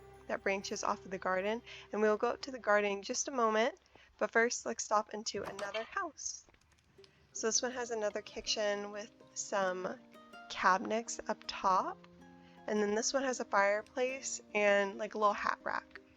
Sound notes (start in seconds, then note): none